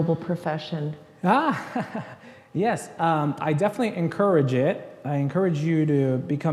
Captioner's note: laughs